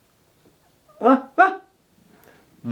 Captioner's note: imitating dog barking